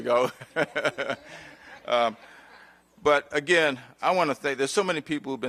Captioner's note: laughter